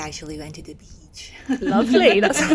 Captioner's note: laughs